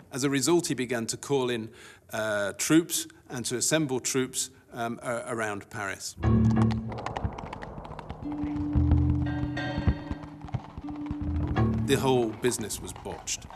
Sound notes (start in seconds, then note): 6.2 tense music; 6.2 hooves thudding; 13.3 tense music